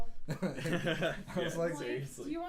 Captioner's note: laughing